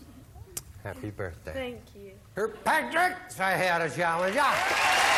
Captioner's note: applause